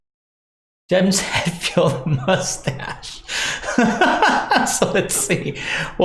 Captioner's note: laughs